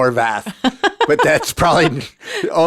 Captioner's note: laughing